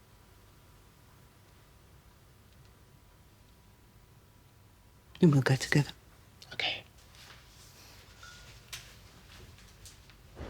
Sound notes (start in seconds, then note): none